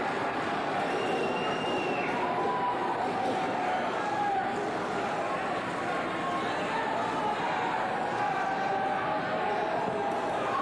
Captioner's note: cheers and applause